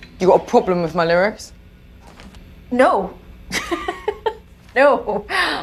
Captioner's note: laughter